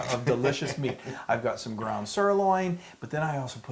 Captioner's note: laugh